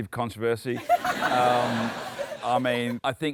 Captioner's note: laughter